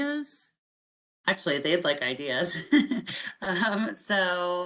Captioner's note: chuckles